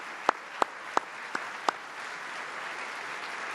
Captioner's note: applause